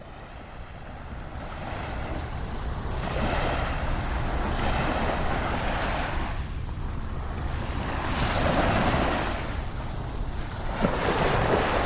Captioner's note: waves crashing